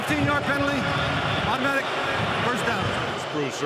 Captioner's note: booing